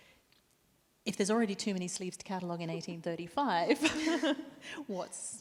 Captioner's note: chuckles